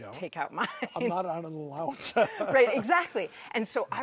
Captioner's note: laughs